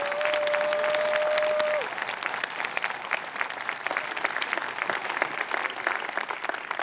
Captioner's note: applause